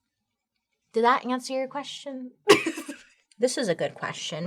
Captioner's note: laughs